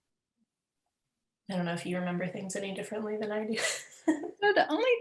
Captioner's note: laughs